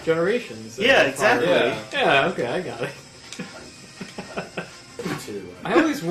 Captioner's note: chuckles